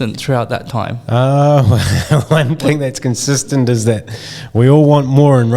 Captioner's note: laughing